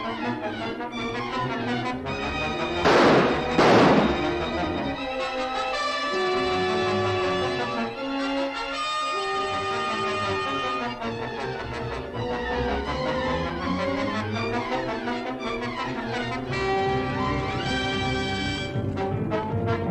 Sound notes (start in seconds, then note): 2.7 gunshots; 11.4 frantic music